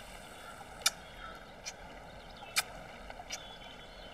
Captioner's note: Kisses